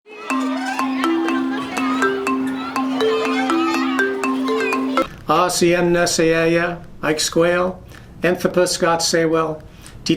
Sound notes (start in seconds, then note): 0.0 kids chattering; 0.1 bright music